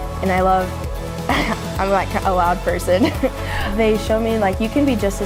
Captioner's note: laughs